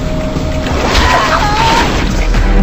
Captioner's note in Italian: urla